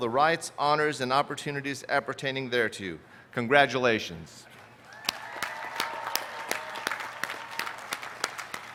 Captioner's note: cheers and applause